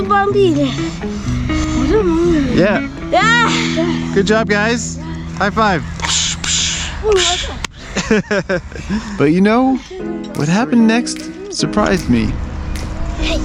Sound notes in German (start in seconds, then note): 6.0 imitiert zischende Luft; 8.2 lacht